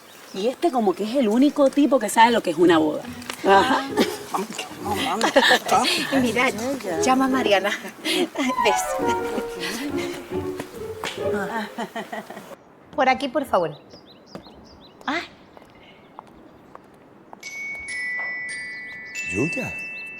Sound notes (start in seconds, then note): 5.2 laughs